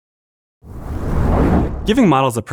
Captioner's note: whoosh